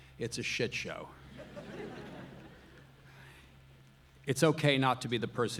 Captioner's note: audience laughing